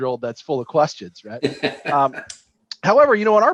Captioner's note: laughs